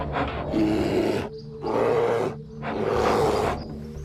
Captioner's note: bear growling